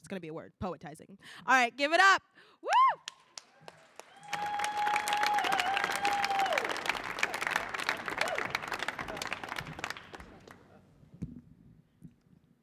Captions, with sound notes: it's gonna be a word, poetizing. All right, give it up. Wooo! [audience applauding]